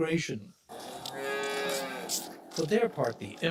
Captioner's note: cow mooing